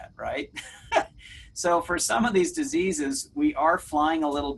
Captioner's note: laughs